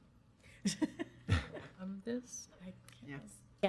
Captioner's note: laughing